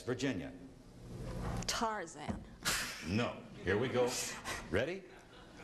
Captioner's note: laughing